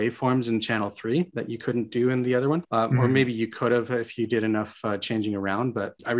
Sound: sound engine

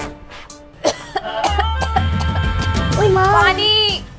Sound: coughing

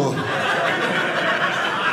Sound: audience laughing

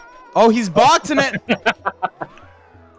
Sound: laughter

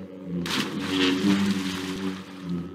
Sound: carcass drops in water

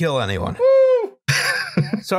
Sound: laughter

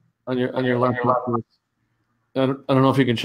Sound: audio feedback

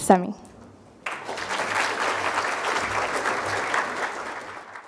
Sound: crowd applauding

